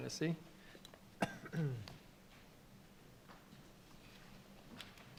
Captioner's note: clears throat